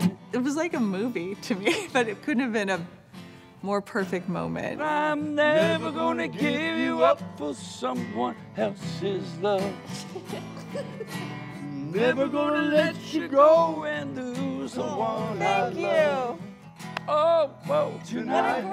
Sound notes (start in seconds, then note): 10.4 girls giggling